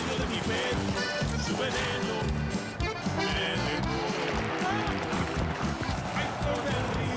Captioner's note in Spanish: aplausos